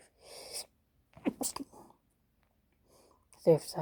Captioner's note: hachoo